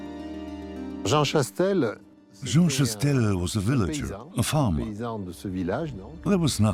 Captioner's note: French dubbed into English